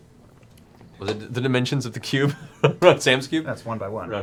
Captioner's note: laughs